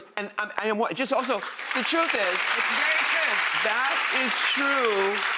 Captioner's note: applause